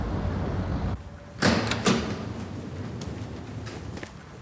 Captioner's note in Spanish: Sonido de la puerta